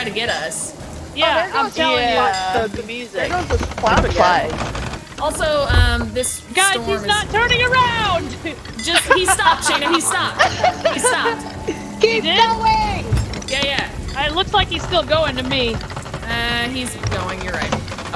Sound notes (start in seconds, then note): 5.6 laugh